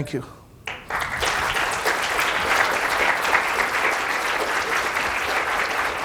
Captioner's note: audience applauding